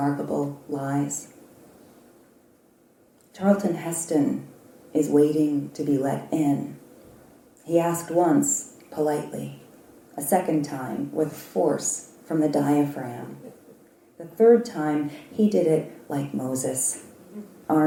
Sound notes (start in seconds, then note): none